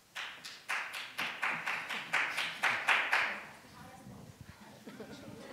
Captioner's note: audience member applauding